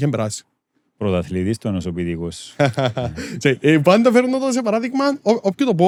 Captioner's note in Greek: γέλια